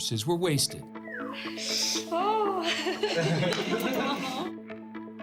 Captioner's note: both chuckle